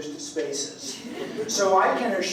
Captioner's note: laughter